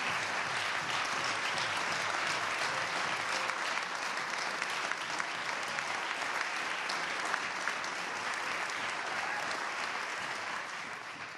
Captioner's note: applause